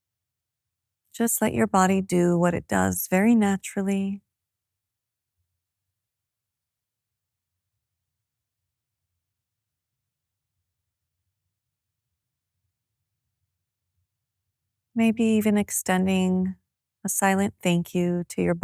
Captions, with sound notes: Just let your body do what it does very naturally. [Silence] Maybe even extending a silent thank you to your